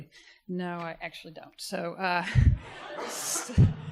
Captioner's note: audience laughter